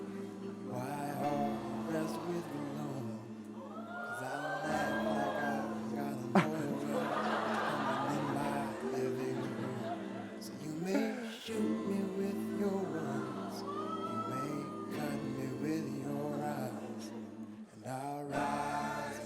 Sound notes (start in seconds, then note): 3.6 audience whooping; 6.1 laughs; 6.2 laughter